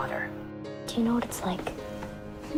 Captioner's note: voiceover